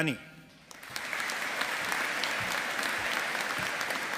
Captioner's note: audience applauding